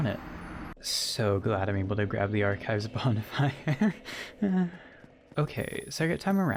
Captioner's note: nervous laugh